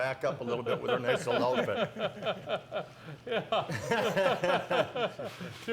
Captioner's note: laughing